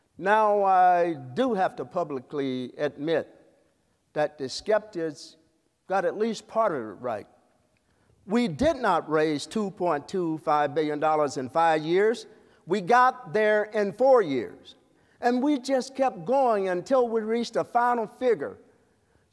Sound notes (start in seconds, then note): none